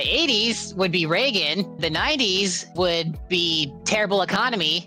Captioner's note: none